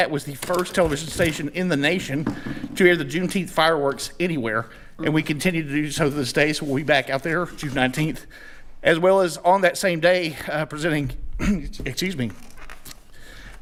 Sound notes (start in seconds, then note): 11.4 clears throat